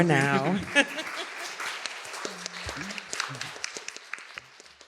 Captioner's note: applause